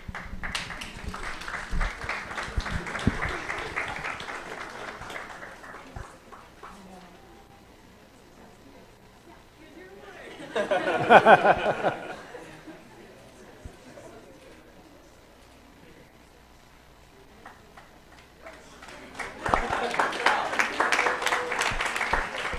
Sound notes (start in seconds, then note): 0.0 applause; 10.2 laughter; 18.0 applause